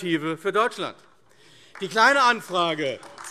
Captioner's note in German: Beifall AfD